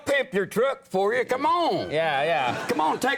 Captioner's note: audience laughs